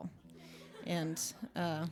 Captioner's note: light laughter